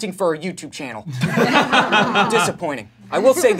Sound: laughing

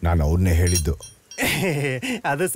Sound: laugh

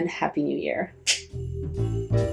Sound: snap

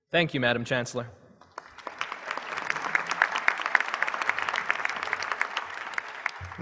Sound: applause

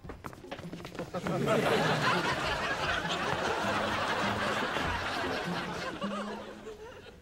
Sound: audience laughing

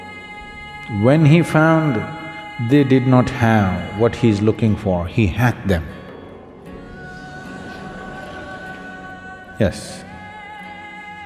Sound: laughs

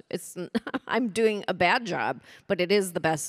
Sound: chuckles

